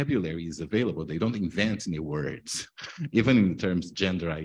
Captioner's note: chuckles